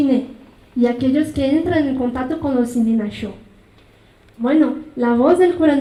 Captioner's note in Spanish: habla en mazateco